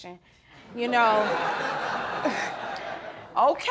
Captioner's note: audience laughing